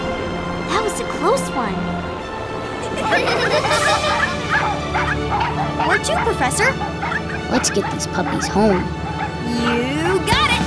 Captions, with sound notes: That was a close one. [laughing] [barking] Where to, Professor? Let's get these puppies home. You got it!